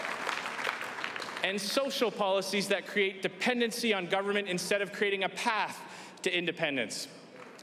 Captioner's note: applause